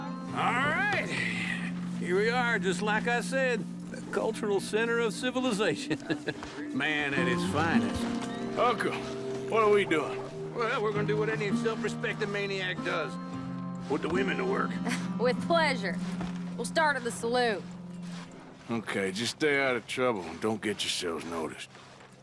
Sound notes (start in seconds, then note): 5.1 laughs; 15.2 scoffs